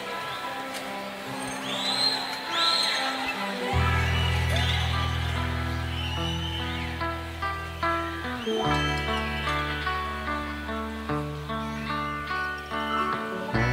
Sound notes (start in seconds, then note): 1.3 more whistling, cheering